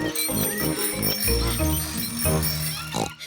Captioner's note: bicycle bells ringing